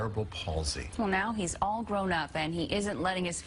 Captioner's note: voiceover